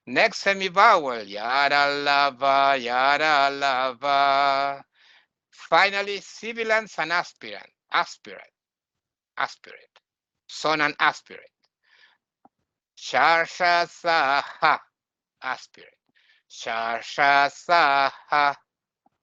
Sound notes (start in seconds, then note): 1.5 chanting; 9.9 chanting